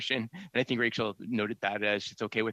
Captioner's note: speaking French